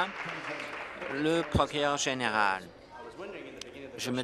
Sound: applause

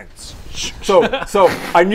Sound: sching sching

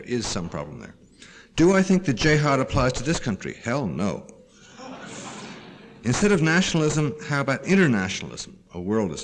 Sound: laughter

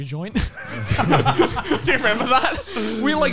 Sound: laughing

